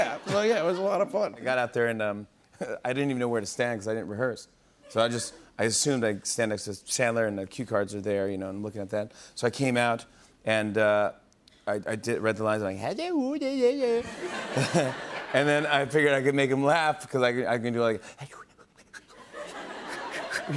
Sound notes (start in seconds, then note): 13.4 Imitates Adam Sandler; 18.5 Imitating Adam Sandler